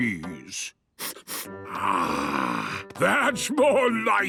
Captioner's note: sniffs